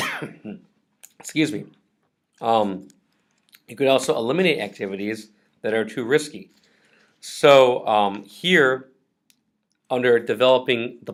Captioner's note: coughs